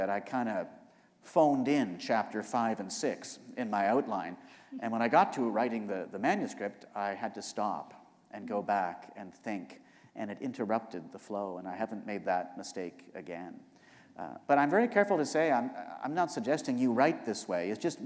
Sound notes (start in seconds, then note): none